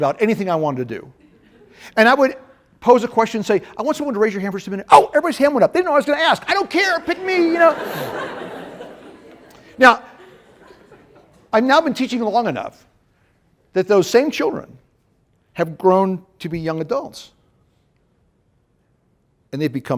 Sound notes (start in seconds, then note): 7.1 laughter